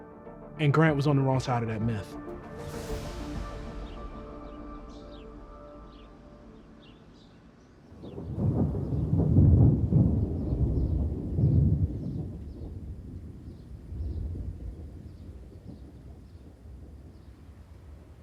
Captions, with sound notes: And Grant was on the wrong side of that myth. [thunder rumbling]